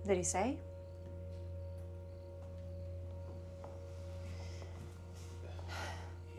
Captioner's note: crickets chirping; tense music